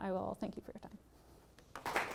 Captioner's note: applause